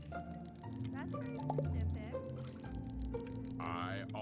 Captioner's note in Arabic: سخرية